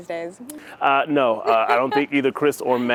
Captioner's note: laughter